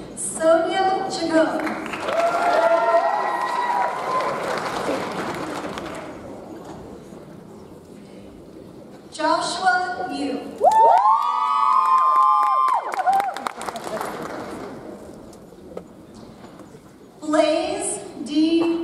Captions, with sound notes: Sonia Chacon. (audience cheers) (audience applauds) Joshua Yoo. (audience cheers) (audience applauds) Blaze D. Reddoch.